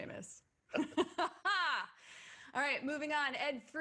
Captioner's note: laughs